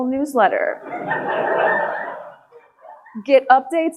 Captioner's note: audience laughing